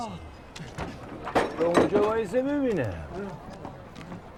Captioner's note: door opening